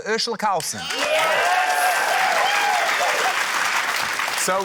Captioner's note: cheering, applause